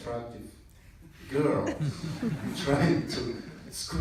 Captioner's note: laughter in the audience